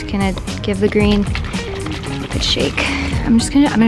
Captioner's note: bottle shaking